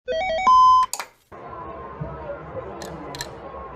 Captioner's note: video game and TV noises